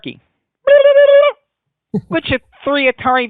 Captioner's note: turkey noise